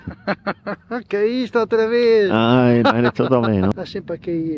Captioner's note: mocking laughter